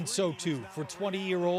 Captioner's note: applause